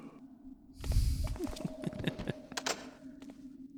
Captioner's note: laughs